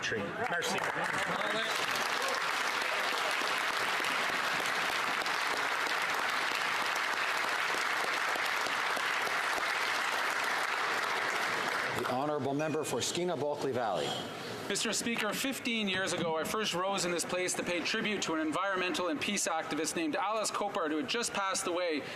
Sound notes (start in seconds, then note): 8.8 applause